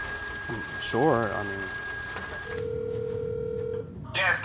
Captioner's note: phone ringing